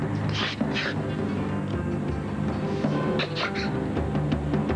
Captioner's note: sanglots